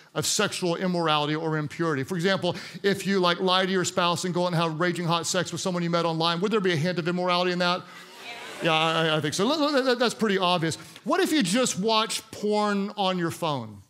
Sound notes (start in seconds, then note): 8.1 congregants shout in agreement